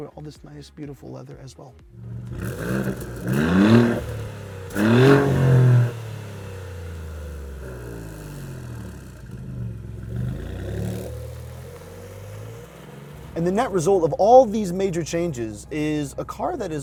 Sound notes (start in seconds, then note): 3.5 engine revving